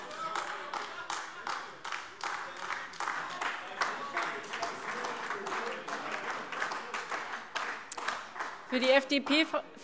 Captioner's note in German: Beifall AfD - Anhaltender Widerspruch